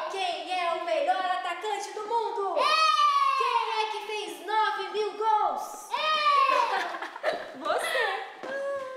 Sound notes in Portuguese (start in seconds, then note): 6.3 risos